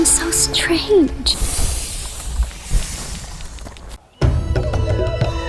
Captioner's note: steam hisses; brooding orchestral music